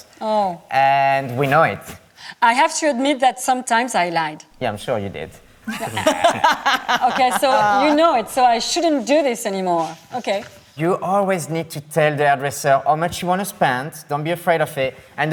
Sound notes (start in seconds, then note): 5.6 laughs